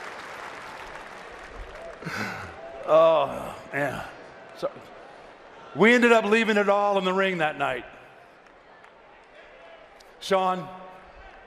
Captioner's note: laughter